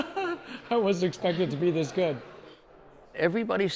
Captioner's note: laughter